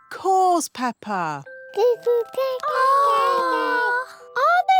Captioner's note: babies gurgle